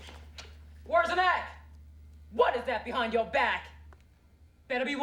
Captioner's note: yelling